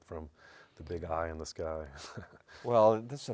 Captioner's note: laughs